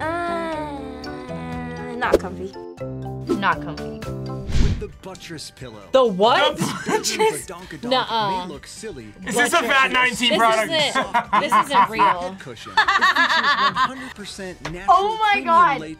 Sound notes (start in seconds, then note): 6.5 laughs; 9.9 laughs; 12.7 both laugh